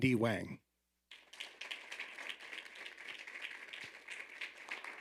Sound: audience applauding

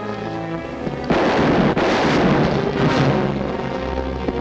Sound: gun firing; tense music

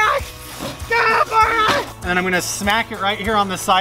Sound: screaming

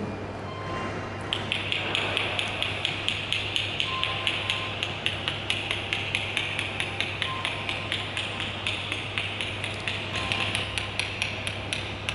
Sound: clicks

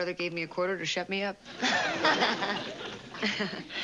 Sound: laughs

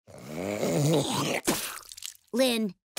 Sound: spitting

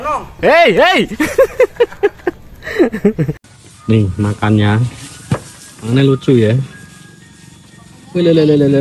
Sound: laughs

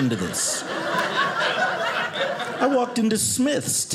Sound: audience laughing

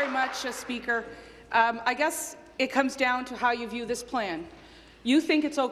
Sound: applause

